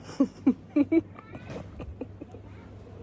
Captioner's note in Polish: śmiech